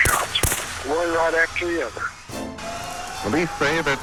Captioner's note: gunshots blast